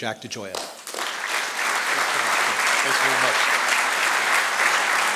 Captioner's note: audience applauding